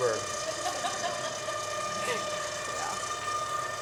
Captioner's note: women laughing